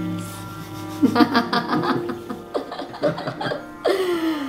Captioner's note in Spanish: Risas